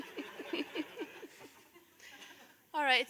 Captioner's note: laughter